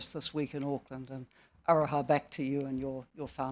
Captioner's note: speaking foreign language